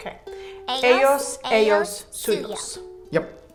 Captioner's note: speaking in a foreign language